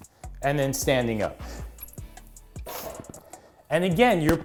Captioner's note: instructor exhaling